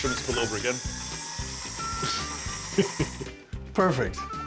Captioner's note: whirring sound; chuckles